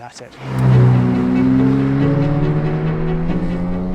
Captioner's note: engine revving